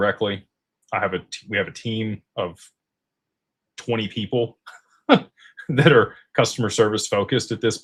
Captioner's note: laughter